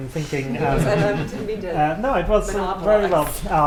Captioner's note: laughter